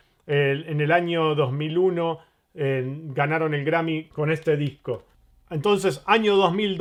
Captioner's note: Latin